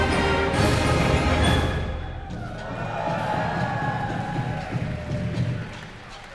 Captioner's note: cheers and applause